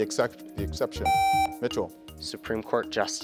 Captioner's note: contestant beeping